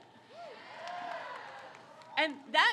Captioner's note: crowd cheers